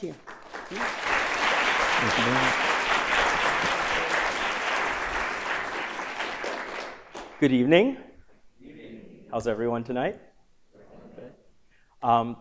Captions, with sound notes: [ Applause ] >> Good evening. >> Good evening. >> How's everyone tonight?